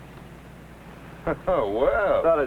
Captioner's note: laughs